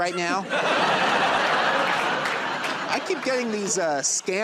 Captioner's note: laughter and applause